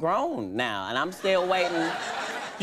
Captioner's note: audience laughing